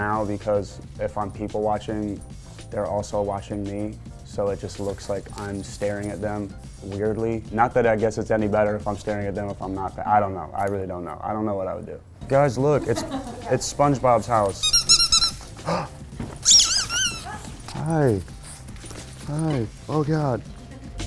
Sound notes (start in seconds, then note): 14.5 toy squeaking; 15.9 gasp; 16.4 toy squeaking; 20.8 upbeat music